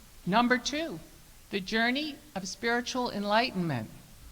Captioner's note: none